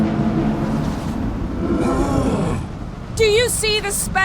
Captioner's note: grunt